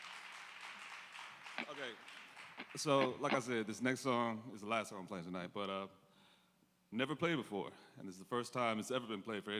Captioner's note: applause